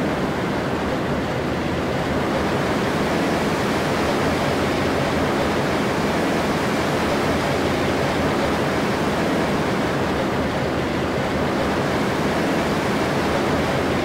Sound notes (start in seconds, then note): 0.0 rollercoaster sounds; 1.4 more rollercoaster sounds; 7.1 rollercoaster produced sounds